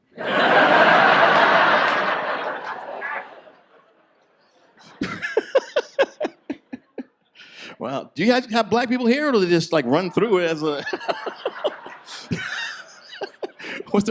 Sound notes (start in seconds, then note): 0.1 audience laughs; 4.7 laughs; 9.7 audience laughs; 10.7 laughs